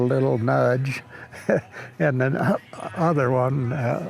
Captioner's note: chuckles